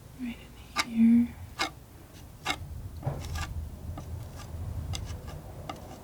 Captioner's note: scratching